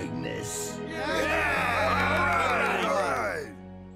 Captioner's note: cheering